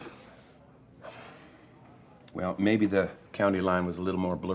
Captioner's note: sighs